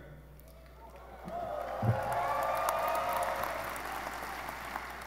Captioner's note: audience cheering